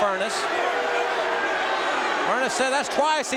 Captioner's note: audience cheering